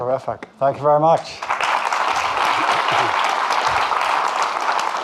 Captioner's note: audience clapping